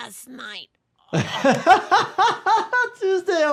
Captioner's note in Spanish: risas